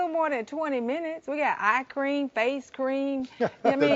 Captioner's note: laughing